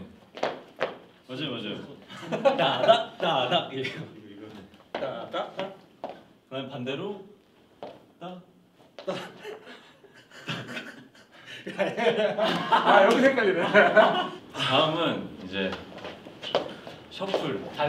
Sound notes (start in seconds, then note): 11.4 holding in his laughter